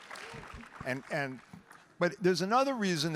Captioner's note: audience applauding